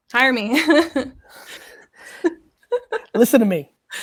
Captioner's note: laughs